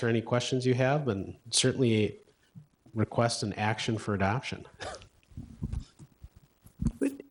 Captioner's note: chuckle